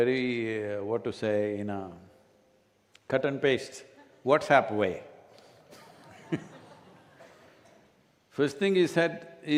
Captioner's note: laughter